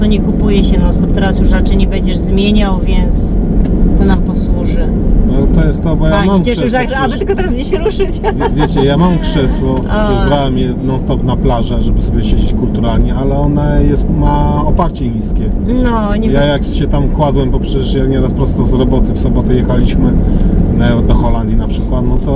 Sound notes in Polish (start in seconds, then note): 8.0 śmiech